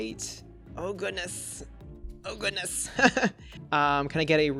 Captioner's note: laughs